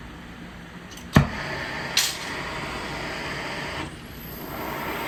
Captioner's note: flame roaring